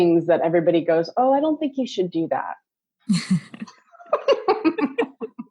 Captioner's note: laughs